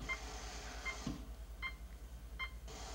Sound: none

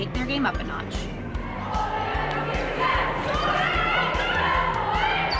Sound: teams shouting

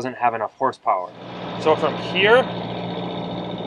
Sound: boat engine roaring

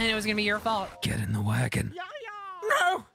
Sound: evil Voice

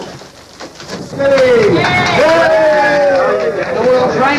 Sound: cheers

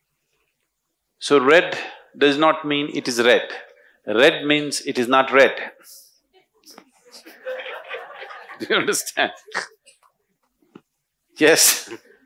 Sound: laughter

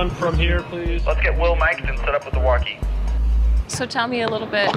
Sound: man on radio

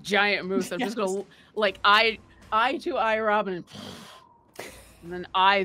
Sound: grunts

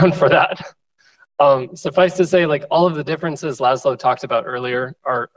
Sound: laughs

